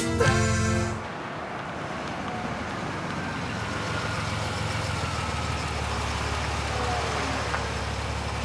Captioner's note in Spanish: Ruido de un auto llegando